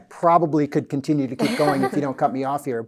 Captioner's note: both students laugh